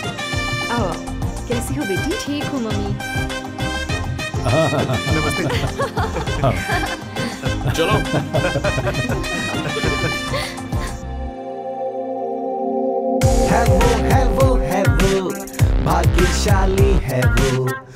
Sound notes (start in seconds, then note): 4.4 giggles